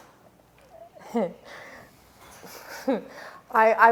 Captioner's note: Clementina giggles